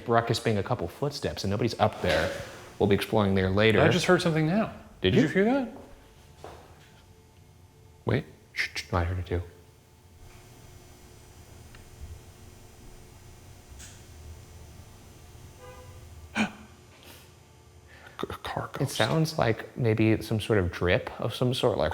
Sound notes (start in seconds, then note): 1.9 object clunks; 8.6 hushes; 10.1 room ambience; 13.8 object clicks; 15.5 hooter honks; 16.3 gasps